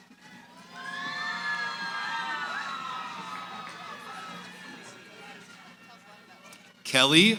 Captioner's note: cheering